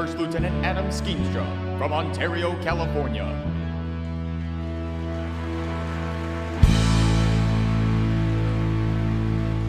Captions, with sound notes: by First Lieutenant Adam Skeenstra from Ontario, California. (audience applauding)